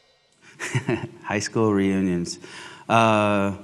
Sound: laughs

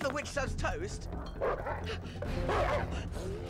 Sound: snarling

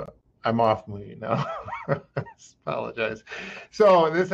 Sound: laughs

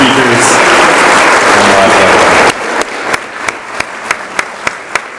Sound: audience applauds

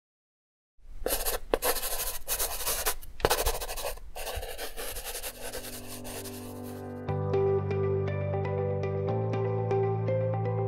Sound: pencil scratching on paper

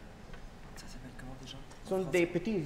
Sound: speaking french

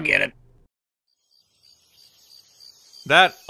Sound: jungle ambiance

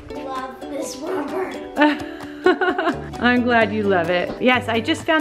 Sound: laughs

